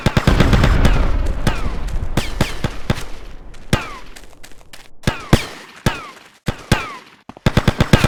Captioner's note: gun fires; gun fires